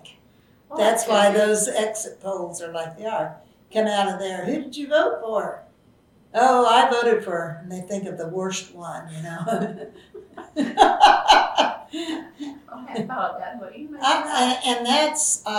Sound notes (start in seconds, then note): 13.5 laughs